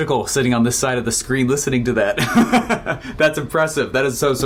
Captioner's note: laughs